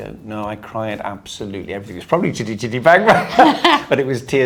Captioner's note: laughing